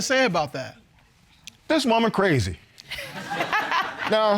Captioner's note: laughing